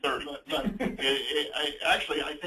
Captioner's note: laughs